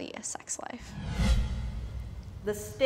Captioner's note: dramatic whooshing